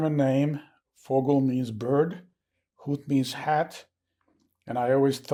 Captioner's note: german